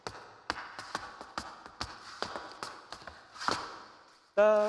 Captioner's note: shoes clacking